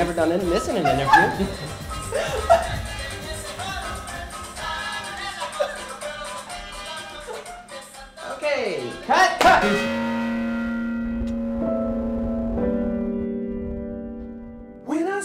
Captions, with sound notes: We've never done this in an interview. (woman laughs) Okay, cut, cut! (bell chimes) (thoughtful music)